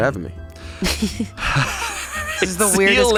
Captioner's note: everyone laughs